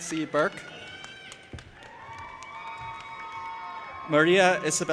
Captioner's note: audience applauding and cheering